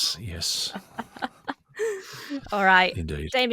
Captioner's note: laughs